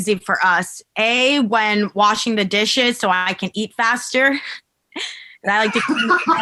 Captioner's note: chuckles